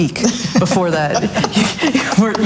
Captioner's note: all laughs loudly